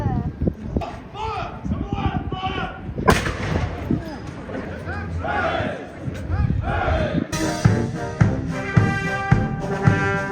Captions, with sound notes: - Fire! - Right, fire! (cannon firing) (soldiers chanting) (band playing)